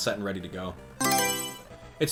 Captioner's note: Mario Selection Sound